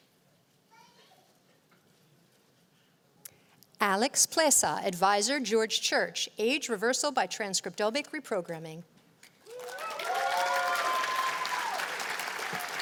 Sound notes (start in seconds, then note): 9.4 cheers and applause